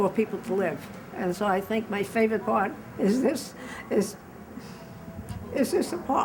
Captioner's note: chokes up